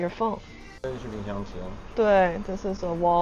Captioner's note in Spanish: en chino